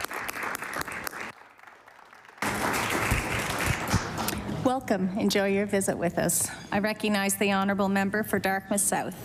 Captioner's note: applause